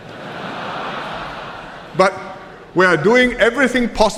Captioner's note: laughter